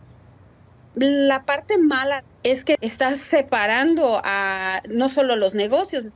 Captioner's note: speaking Spanish